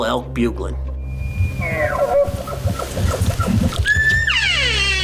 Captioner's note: elk bugling; elk call chirping